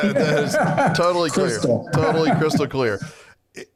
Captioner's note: laughing